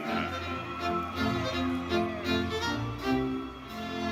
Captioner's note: audience cheering